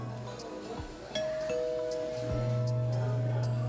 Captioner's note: ding dong! 🔔